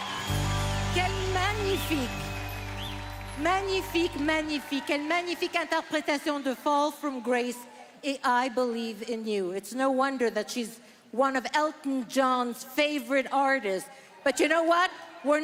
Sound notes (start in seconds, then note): 0.0 applause; 10.2 speaking French